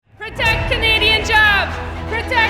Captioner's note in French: scandé